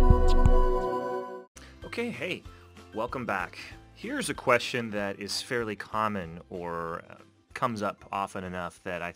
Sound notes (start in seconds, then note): 0.0 electronic techno music; 2.0 voiceover